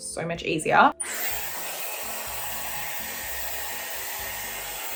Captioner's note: hairdryer whirring